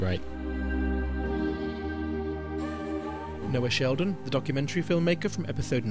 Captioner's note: voiceover